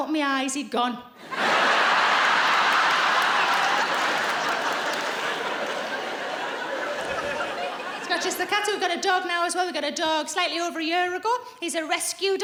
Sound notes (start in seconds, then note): 2.1 laughing